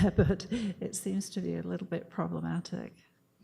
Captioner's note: chuckles